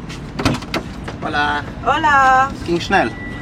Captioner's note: in Spanish